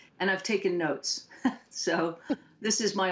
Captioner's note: laughter